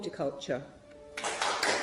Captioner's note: clapping; dramatic music